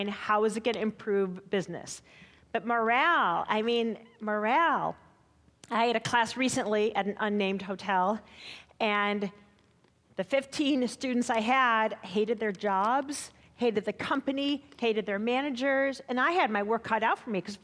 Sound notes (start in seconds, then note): none